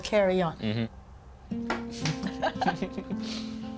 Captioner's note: chuckles